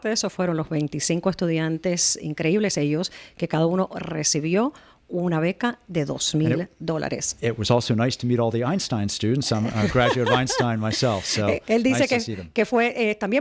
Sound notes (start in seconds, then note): 7.6 Hablando ingl\s